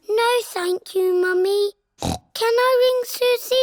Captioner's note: snorts